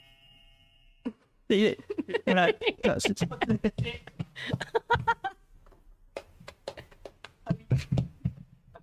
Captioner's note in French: RIRE : a cassé le buzzeur